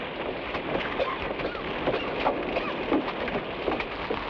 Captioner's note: Magno coughs